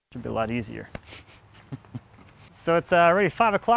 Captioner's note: laughing